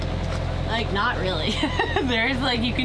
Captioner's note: laughs